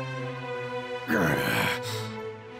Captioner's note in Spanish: Gruñidos